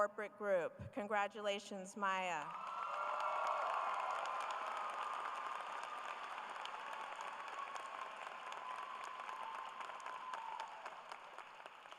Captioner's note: applause